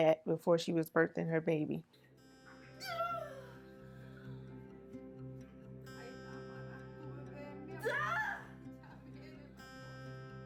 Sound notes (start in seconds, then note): 6.8 in foreign language